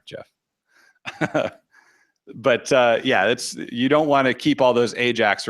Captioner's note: chuckles